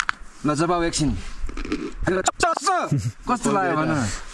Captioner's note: crunching